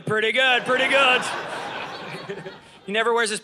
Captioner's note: audience laughing